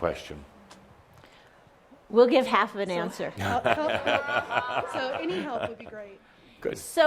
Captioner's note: Adamus chuckles